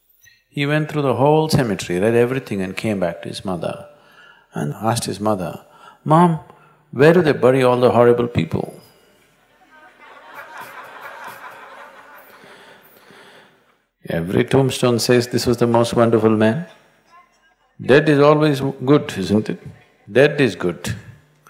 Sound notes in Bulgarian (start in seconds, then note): 9.4 медитаторите се смеят